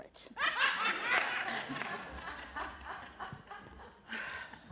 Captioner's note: laughter